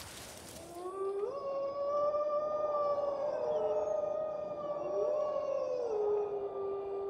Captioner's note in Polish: wycie